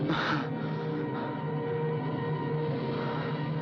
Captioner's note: gasping